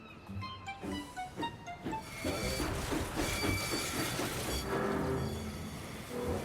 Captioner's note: wheels screech